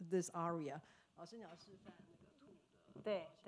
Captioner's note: speaking foreign language; speaking Mandarin